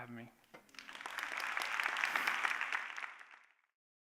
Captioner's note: applause